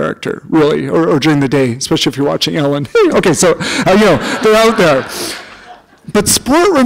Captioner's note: chuckle